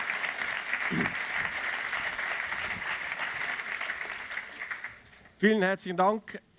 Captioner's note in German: applaus